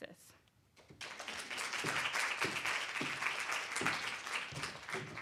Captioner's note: audience applauds